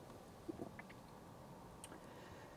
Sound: swallows

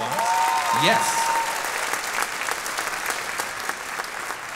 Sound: audience clapping

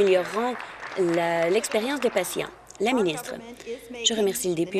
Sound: applause

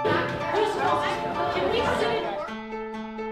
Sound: students chattering; bright music

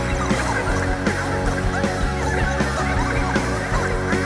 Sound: chuckles

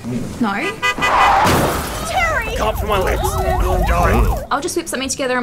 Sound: car crashes, woman screams 'Terry!

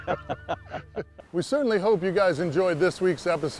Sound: laughter

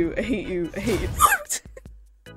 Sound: squeak of fear

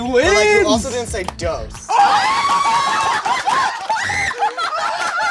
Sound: everybody cheers

